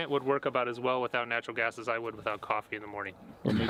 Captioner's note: laughing